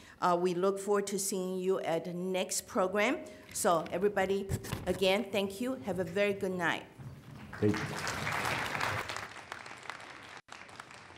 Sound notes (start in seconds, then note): 7.2 applause